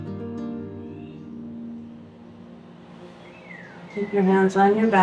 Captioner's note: sound of birds and nature sounds